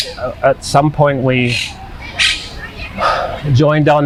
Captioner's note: sighing